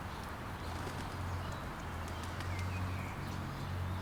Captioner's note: bird wings flap